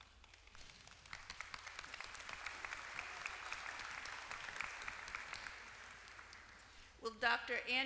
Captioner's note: applause